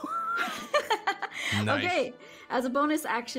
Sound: laughs

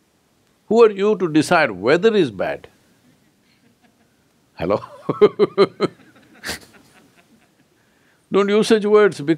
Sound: laughs

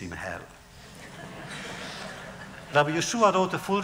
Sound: laughter

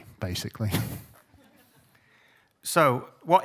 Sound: chuckles

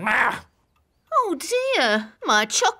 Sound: groans

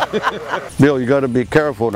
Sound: laughs

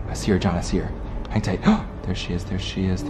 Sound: gasp

